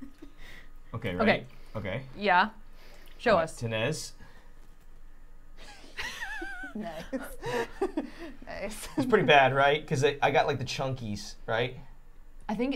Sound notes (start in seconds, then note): 5.7 all laughing